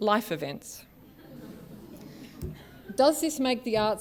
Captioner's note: laughter